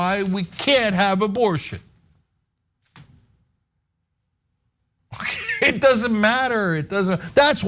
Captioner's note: laugh